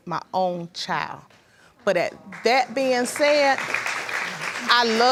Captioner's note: audience applauding